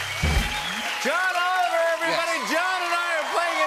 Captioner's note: cheers and applause